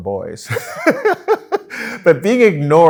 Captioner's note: laughs